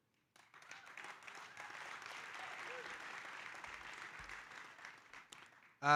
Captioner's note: audience cheering and applauding